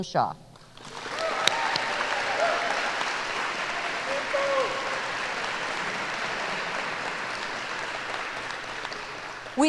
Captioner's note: applause